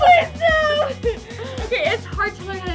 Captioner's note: laughs